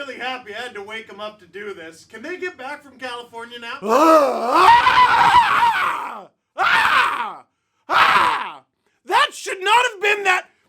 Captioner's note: exasperated screaming